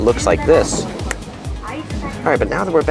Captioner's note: fingers snapping